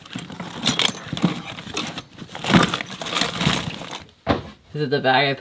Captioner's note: rustling and clanging